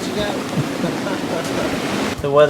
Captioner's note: nervous laughter